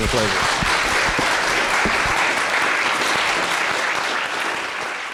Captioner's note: audience applauding